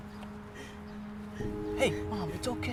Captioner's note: crying